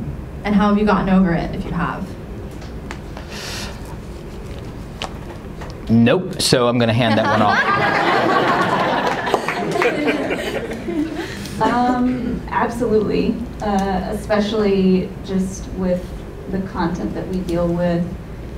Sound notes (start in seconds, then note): 7.0 laughter